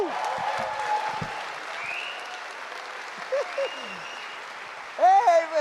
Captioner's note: audience applauds and cheers